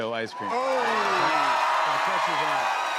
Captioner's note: cheers and applause